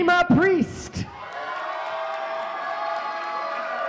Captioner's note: applause